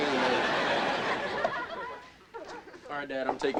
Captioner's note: audience laughing